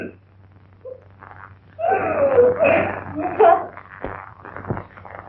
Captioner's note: thunder